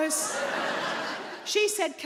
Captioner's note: audience laughs